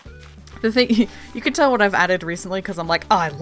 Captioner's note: laughs